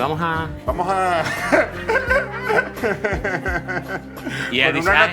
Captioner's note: laughs